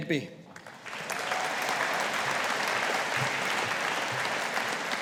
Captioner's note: audience applauding